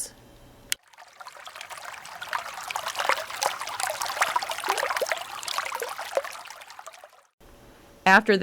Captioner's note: water trickling